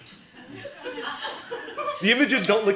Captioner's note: laughter